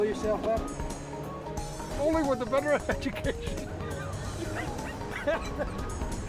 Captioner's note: laughing